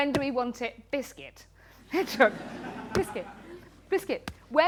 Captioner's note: laughter